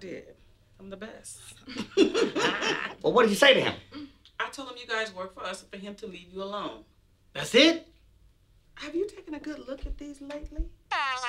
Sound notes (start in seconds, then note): 1.6 laughing